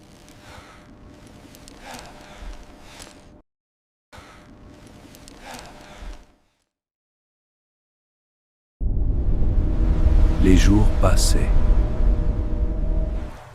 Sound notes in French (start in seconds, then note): 0.0 soupir; 0.6 grognement